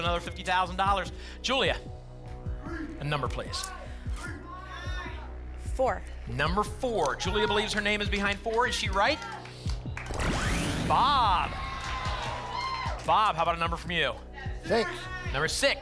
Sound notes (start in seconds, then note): 3.9 audience shouting numbers; 11.8 applause and cheering